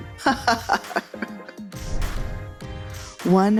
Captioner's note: laughs